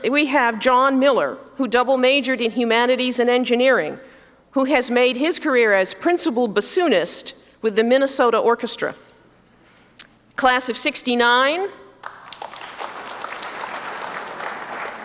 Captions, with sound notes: We have John Miller, who double majored in humanities and engineering who has made his career as principal bassoonist with the Minnesota Orchestra. Class of '69. [APPLAUSE]